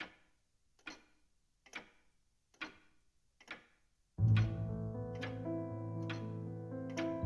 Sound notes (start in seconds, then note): 0.8 clock ticking; 4.2 dramatic music